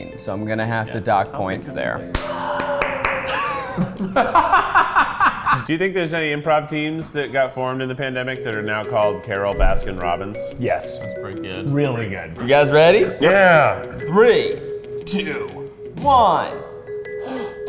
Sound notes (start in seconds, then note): 2.1 claps; 2.2 a distant shout is heard; 4.3 laugh